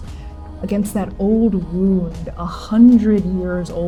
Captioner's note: inhaling sharply, breathing